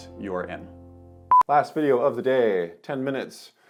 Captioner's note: computer beeps